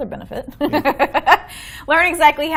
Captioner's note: laughing